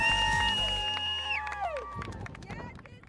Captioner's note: cheering